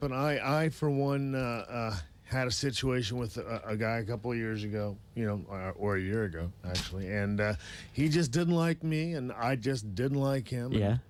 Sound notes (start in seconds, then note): none